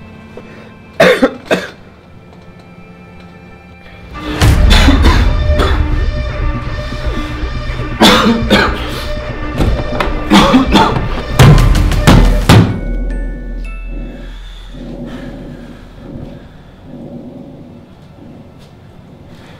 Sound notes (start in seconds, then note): 1.0 coughs; 4.2 oxygen concentrator sound; 7.9 oxygen concentrator sound & cough; 12.0 whack